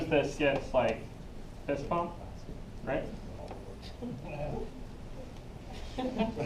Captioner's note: laughing